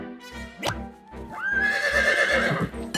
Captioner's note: horse whinnies